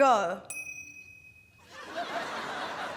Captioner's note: ting!